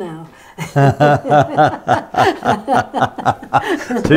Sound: laughs; they laugh

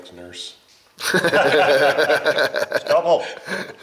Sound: men laugh

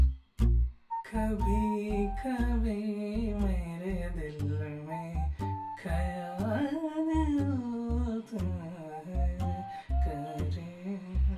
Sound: humming a old hindi song

